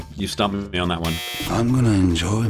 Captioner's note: buzzer sound